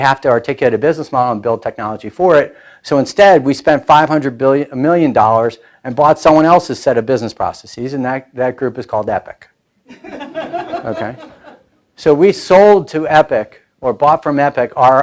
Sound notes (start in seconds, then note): 9.9 laughing